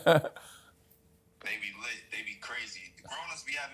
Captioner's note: laughs; on phone